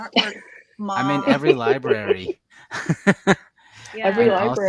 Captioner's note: laughs